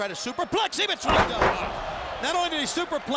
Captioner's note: superplex booms